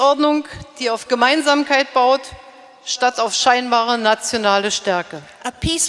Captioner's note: speaking in German